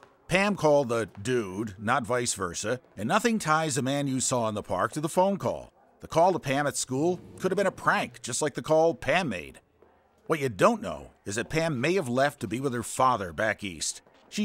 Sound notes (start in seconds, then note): none